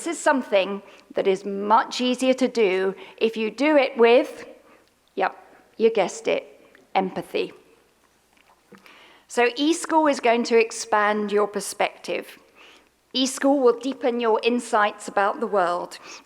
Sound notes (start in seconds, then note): none